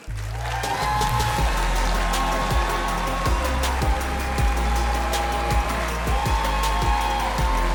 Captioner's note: audience cheering; cheerful music